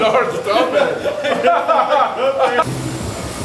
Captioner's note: muahahaha